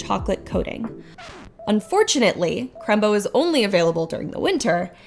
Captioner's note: record player scratches